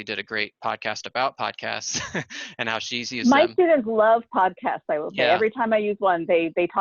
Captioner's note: laughter